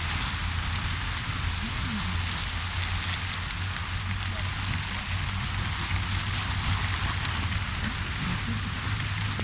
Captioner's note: heavy rain; wind